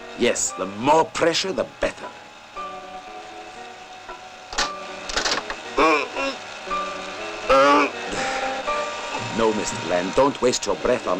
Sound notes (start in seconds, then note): 5.2 grunting; 7.5 chuckles